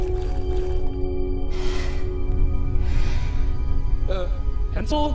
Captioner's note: anxious breathing